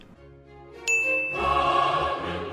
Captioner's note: bell rings